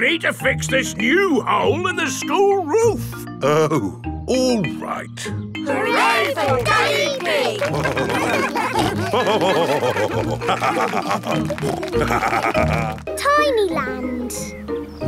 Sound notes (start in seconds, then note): 8.5 all cheering; 9.6 laughing; 11.5 snorting